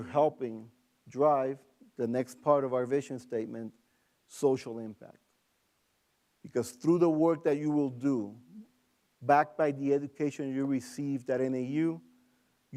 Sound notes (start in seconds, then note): none